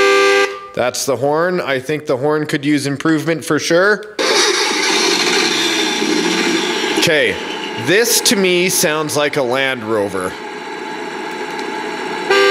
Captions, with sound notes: (horn honks) That's the horn. I think the horn could use improvement for sure. (car starts) Okay, this to me sounds like a Land Rover.